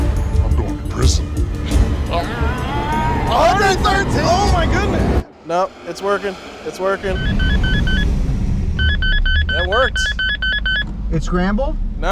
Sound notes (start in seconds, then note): 8.7 radar beeping